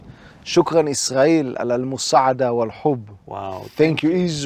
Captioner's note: syrian Language